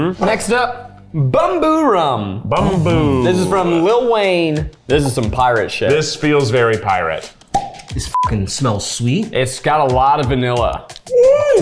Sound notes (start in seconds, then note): 7.5 bottle pops